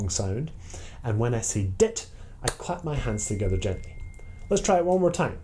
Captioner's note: clap